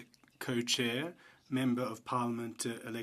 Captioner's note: speaking French